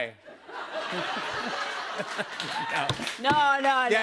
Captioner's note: laughter